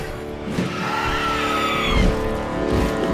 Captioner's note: screech